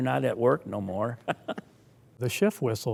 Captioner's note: both laughing